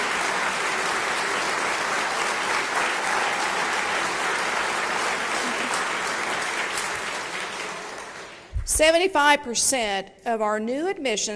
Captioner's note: applause